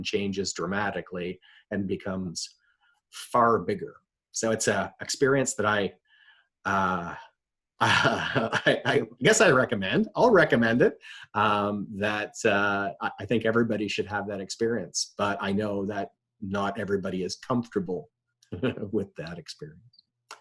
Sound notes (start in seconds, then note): 7.8 chuckling; 18.5 chuckling